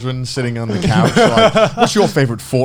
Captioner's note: all laughing